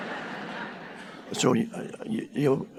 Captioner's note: audience laughing